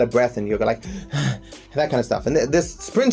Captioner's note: imitates Panting